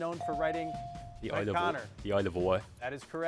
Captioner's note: bell dings